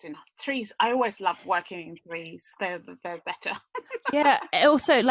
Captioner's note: laughs